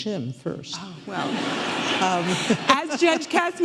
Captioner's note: audience laughing